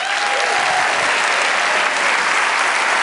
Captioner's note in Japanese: 拍手